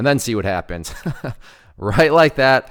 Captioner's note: laughing